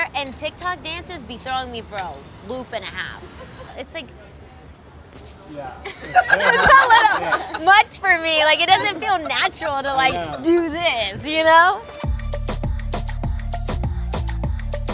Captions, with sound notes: and TikTok dances be throwing me for a loop and a half. It's like. - Yeah. [all laughing] - It's a little much for me, like it doesn't feel natural to do this, you know? [upbeat music]